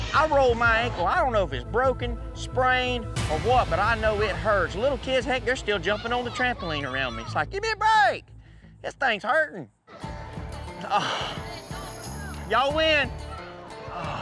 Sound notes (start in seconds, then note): 10.8 grunts